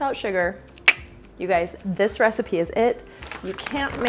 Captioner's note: clicks tongue